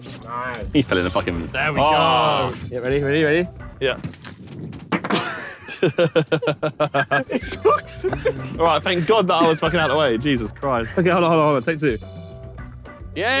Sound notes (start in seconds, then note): 0.0 fishing line whooshes; 0.0 upbeat music; 4.9 anchor thuds; 5.1 Josh laughs